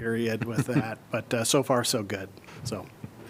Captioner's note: laughter